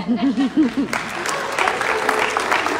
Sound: clapping

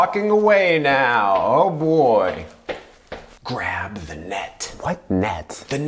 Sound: footsteps

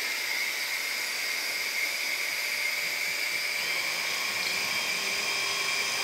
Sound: drill brattling; saw engine whirring

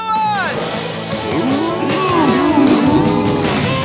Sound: mooing

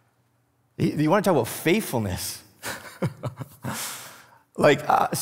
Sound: laughs

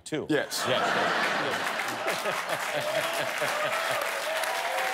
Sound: laughter; cheers and applause

